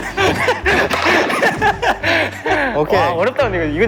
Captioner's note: laughter that often comes out in embarrassment